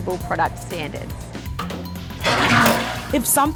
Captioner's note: toilet flushes